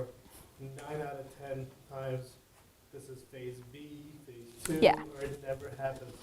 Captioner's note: speaking faintly off microphone